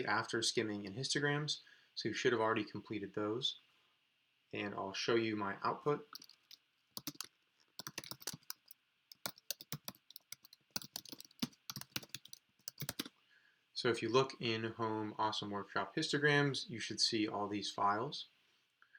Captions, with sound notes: after Skimming and Histograms, so you should have already completed those. And I'll show you my output. (keyboard clicking) So if you look in home, awesome-workship/histograms, you should see all these files.